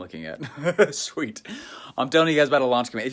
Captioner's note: laughs